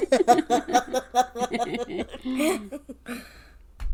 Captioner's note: laugh